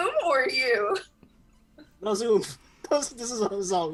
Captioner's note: laughing